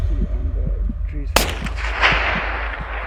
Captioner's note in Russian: выстрел